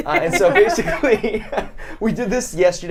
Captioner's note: laughter